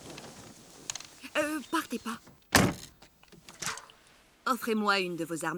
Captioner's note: car door closes